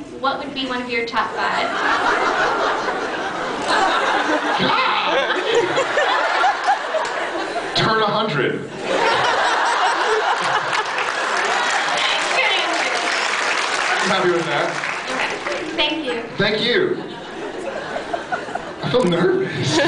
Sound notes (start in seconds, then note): 1.8 scattered laughs; 5.9 laughs; 8.8 laughs; 13.5 applauds